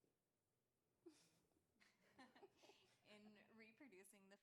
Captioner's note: laughter